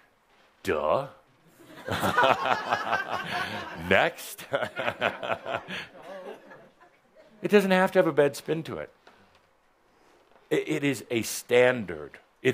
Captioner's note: chuckles